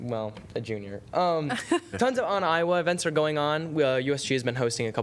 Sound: laughter

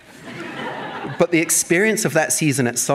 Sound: audience laughing

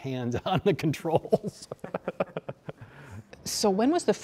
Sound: all laughing

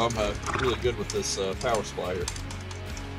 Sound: clicking

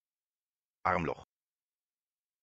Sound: fast Pronunciation

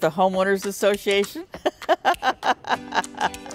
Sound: laugh

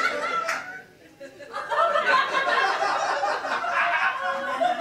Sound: audience laughing

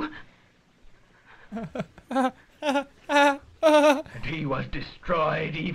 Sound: imitates feeble laughter

